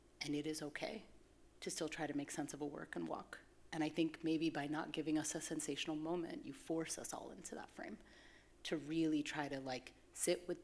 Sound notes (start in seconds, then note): none